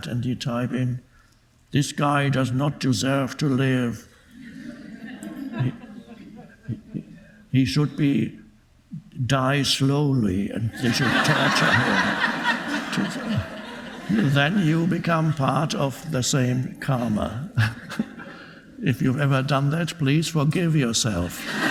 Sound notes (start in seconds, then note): 4.3 audience laughing; 17.0 laughing